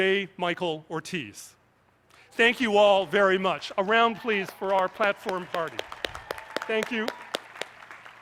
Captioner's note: applause